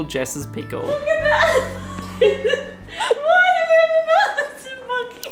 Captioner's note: laughing